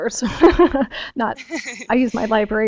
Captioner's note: laugh